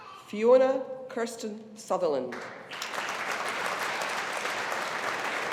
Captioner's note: audience applauding